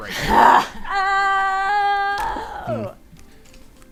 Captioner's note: screams